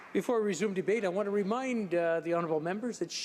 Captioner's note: some Applause